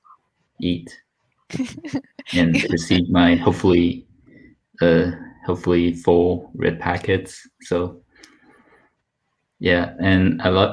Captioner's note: laughs